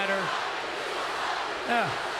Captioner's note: crowd chants